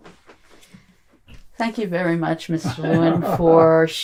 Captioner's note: laughing